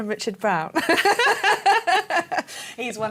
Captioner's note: laughter